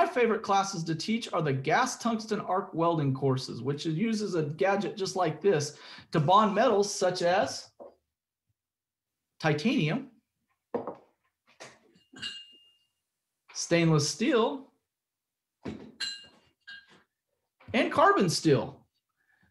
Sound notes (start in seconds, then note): 10.7 thunk; 11.9 metal clinks; 16.0 metal clinks